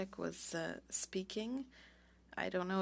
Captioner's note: speaking French